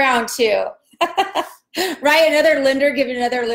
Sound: laughs

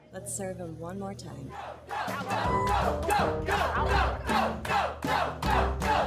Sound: diners chanting

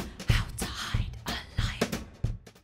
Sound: whisper

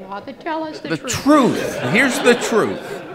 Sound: laughing

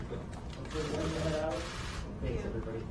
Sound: camera shutters continue

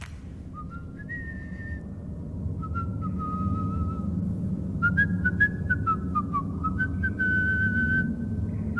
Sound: whistling

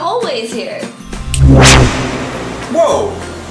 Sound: snap and zap

